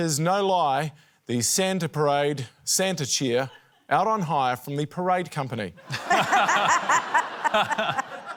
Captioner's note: laughter